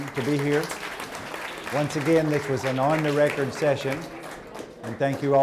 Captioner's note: applause